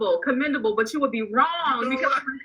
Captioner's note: laughing